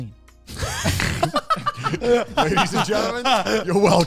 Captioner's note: all laugh